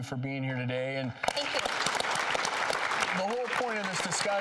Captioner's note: crowd applauds